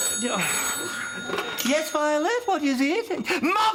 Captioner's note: phone rings